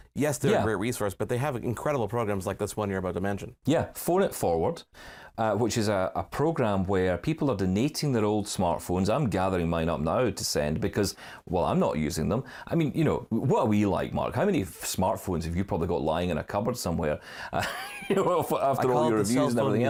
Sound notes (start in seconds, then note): 17.6 laughter